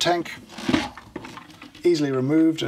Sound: plastic creaks

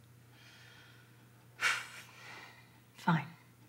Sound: Debbie sighs

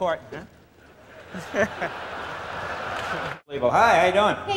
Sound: laughter

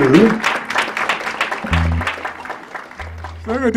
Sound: applause

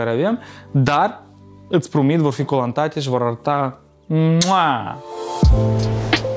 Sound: kiss

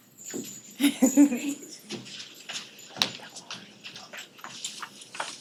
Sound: person laughing

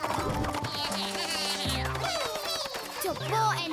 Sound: spanish-style guitar; snarky electronic laughter

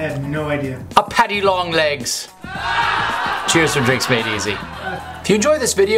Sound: crowd laughing

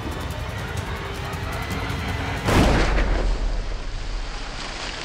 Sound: gunshot

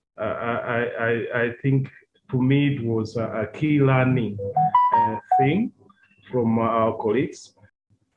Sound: sound of ringtone

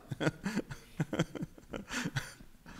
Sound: laughing

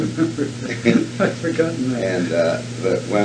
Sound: laughs

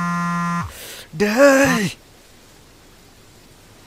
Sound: irritated

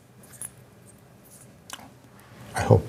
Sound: laughs

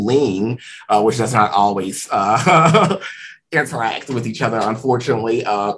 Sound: laughs

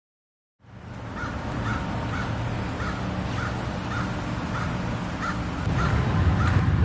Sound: birds chirping

